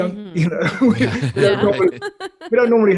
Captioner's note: laughs quickly